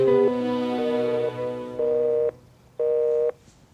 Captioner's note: busy tone on the phone